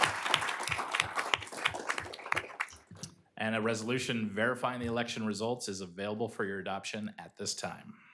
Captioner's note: applause